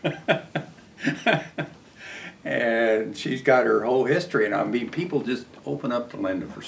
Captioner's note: laughs